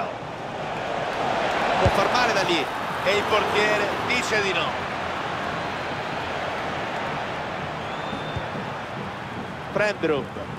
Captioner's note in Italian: Applauso